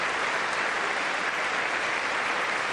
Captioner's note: applause